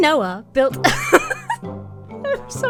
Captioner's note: laughs